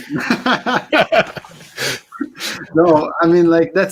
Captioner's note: laughter